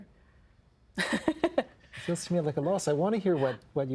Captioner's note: laughing